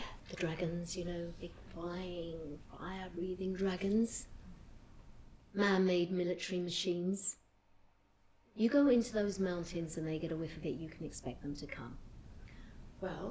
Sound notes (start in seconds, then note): none